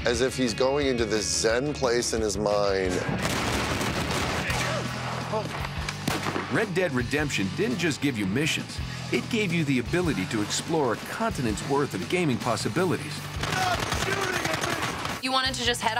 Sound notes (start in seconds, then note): 3.9 gunshots